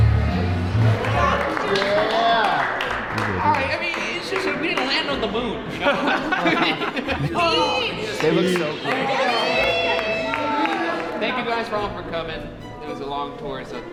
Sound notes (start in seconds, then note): 1.7 team cheering; 5.5 all laughing